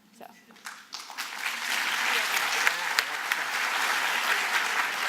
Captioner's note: applause